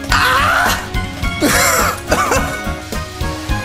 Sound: cope laugh

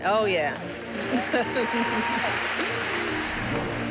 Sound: applause and cheering

